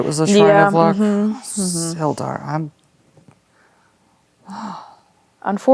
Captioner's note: sighs